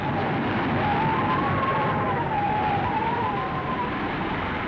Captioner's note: wind howling